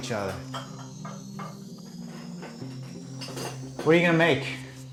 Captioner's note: sounds of Aunt Ruth working in kitchen